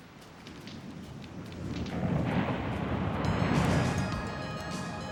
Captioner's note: waves crashing; dramatic music